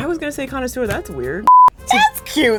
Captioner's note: beep